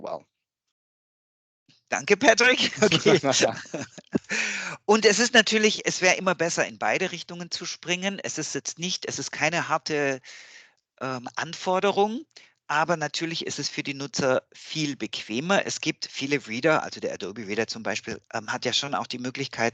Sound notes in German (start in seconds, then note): 2.0 lachen